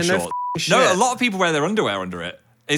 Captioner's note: beep